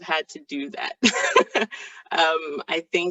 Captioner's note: laughing